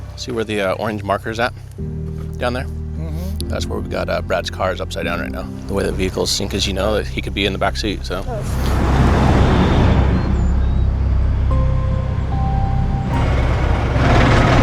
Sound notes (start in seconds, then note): 9.6 traffic roaring; 11.8 solemn music; 14.4 engine rumbling